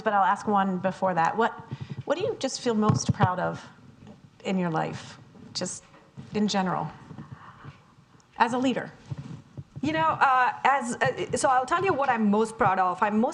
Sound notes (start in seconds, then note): none